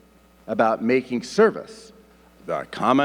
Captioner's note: none